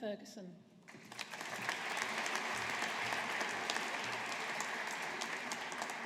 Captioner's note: audience applauding